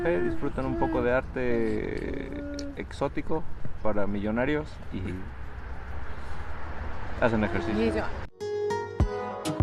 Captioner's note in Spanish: risas